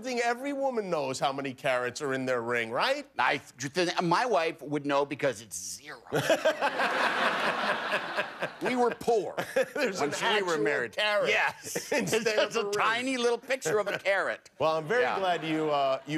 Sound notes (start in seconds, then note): 4.5 laughter